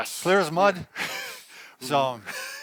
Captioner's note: laughing